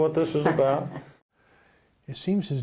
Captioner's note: laughing